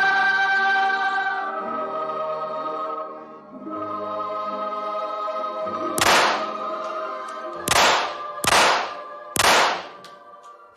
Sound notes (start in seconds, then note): 6.0 gunshots